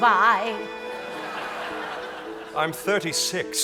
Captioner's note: audience laughing